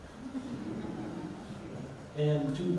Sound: audience laughs

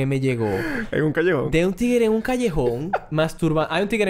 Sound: laughs

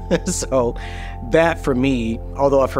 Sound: laughs

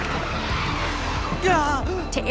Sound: shrieking

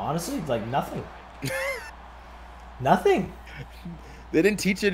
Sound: laugh

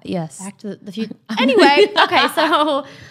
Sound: laughs

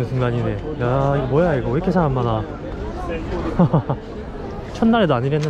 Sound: laughing

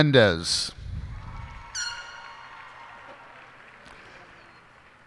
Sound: cheers and applause

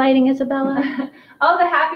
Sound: laughs

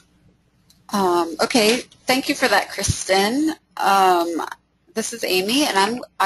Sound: voiceover

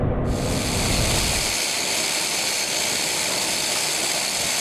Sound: ratcheting

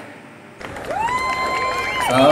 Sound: applause to myself

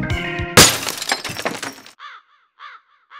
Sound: glass shatters; crow caws, dog barks, bird chirps

